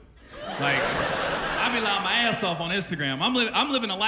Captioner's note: laughter